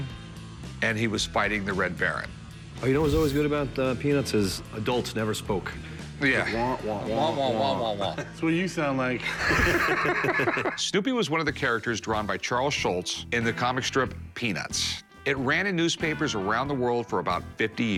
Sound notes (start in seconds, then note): 6.3 imitating charlie brown's teacher; 9.2 laughter